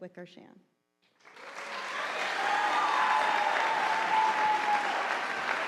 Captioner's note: audience applauding